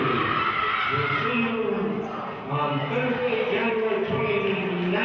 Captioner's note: players hollering